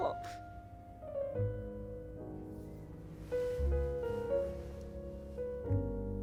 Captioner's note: sobbing